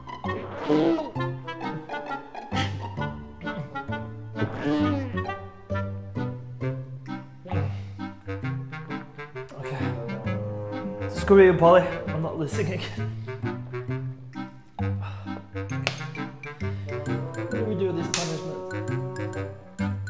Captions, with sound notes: *barf* *barf* OK. Screw you Polly. I’m not losing again. Ohh. Why do we do this punishment?